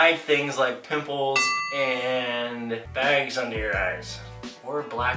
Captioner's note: ding